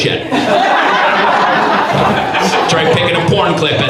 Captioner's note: audience laughs